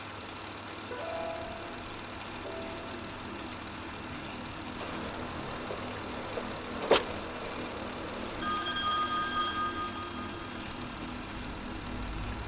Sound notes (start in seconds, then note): 3.2 ominous music; 8.2 phone ringing